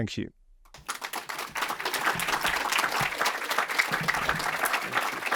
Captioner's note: audience applauds